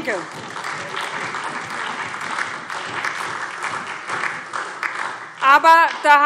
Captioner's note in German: Beifall SPD und DIE LINKE